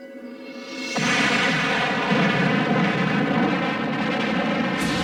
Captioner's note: explosions blasting